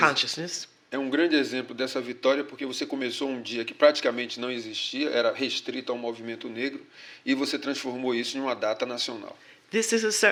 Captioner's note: speaking portuguese